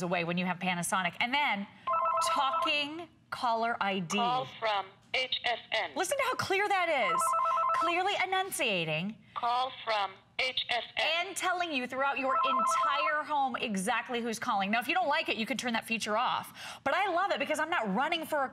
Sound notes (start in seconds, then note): 8.8 electronic voice; 14.2 electronic voice